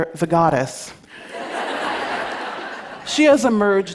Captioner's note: laughter